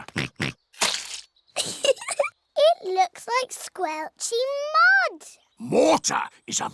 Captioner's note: oinks; giggles